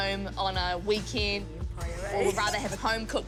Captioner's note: laughs